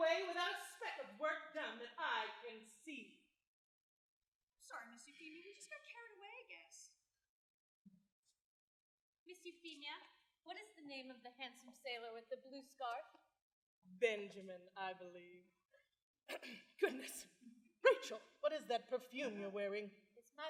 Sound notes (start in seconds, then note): 16.3 clears throat